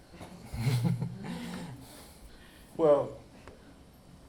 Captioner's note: chuckles